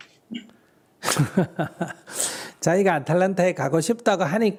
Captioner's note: laughter